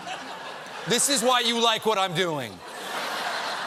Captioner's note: laughter; laughter